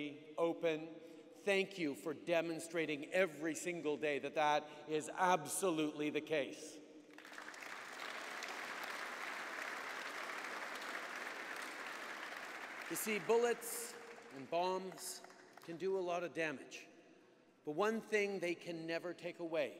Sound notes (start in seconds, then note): 7.1 applause